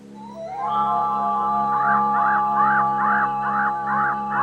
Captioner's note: bird cawing